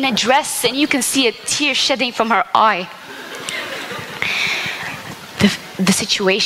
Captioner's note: laughter